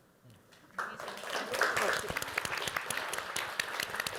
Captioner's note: applause